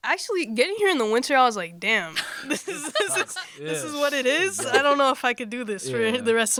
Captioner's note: laughter